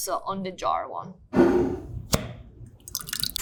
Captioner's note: jar scraping; sauce sloshing; jar cap clacking